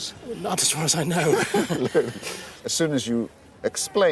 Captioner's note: laughs